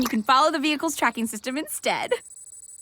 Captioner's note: digital chirping